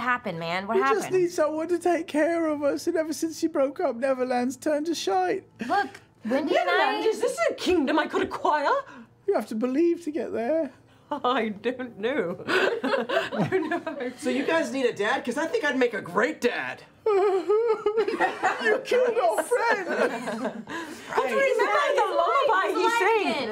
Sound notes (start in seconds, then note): 16.8 crying